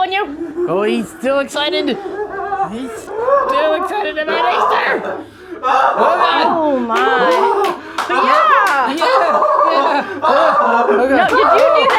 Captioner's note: maniacal laughter